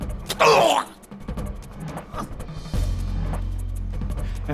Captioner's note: Larson groaning